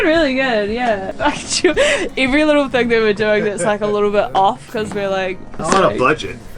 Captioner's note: laughs